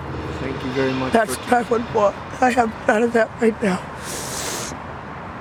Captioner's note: sniffles